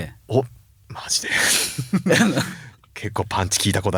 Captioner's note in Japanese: 笑い